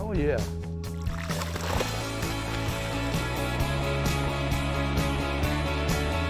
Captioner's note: water splashing and lively music